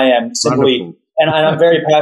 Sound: laughs

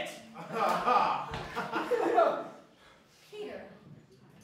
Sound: laughter

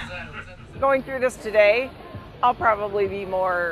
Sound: laughter

